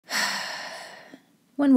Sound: sigh

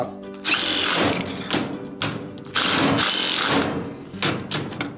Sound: drill whirring

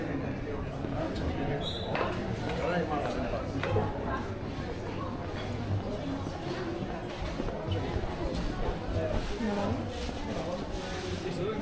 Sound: people chattering

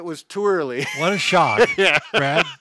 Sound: laughs

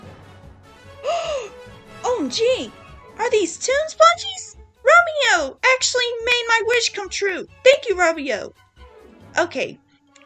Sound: gasps

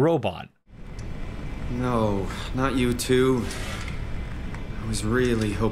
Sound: in-game audio

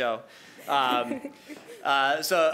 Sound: laughing

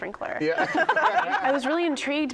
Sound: laughter

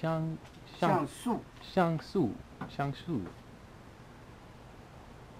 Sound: mandarin

